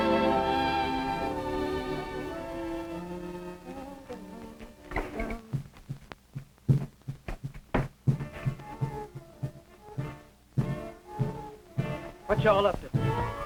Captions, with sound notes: (humming) (suspenseful music) - What y'all up to?